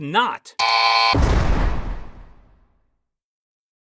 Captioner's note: buzz; jail bars slam